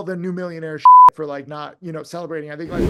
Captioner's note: beep